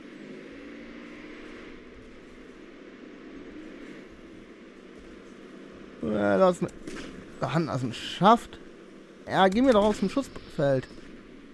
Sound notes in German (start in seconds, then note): none